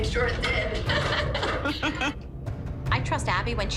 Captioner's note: laughter